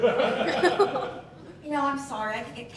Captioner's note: laughter